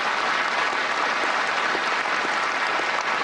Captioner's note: applause